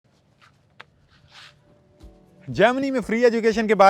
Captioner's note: footsteps approaching